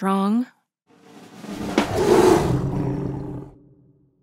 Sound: growling

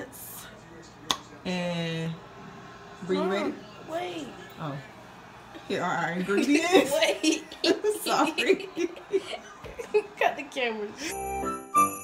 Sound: ha ha

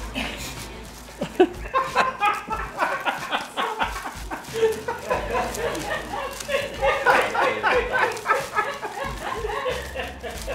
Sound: laughter

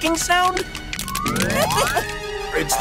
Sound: crabs clicking

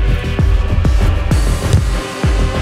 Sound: hard knock

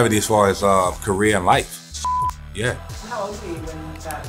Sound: beeps

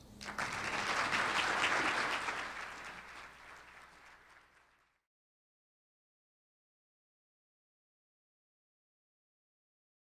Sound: applause

